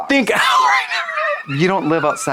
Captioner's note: wheezes